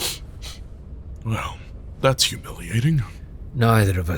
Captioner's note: sniffing